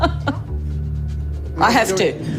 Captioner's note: laughs